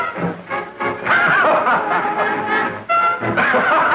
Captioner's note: laughing